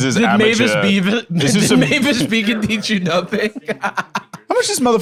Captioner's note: laughs